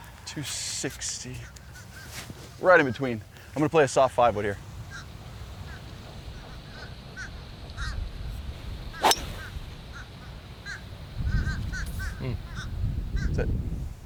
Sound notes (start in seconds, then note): none